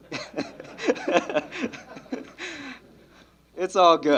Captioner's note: laughs